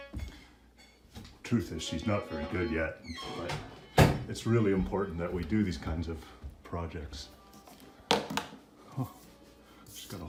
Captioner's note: talking in low voice